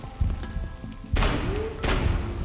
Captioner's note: gunshots